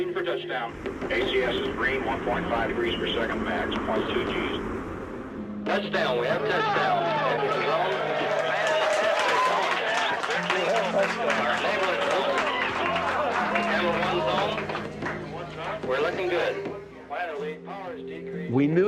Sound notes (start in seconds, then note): 13.5 group cheers; 16.5 applause